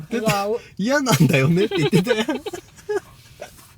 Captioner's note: laughs